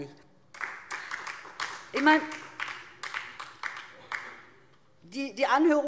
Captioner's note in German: Beifall DIE LINKE